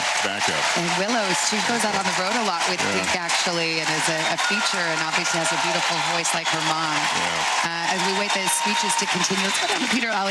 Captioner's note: applause